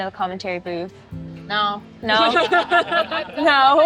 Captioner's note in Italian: tutti ridono